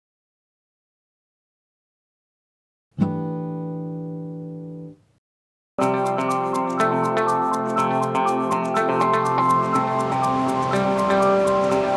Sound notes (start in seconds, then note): 3.0 chime sounds; 5.8 upbeat music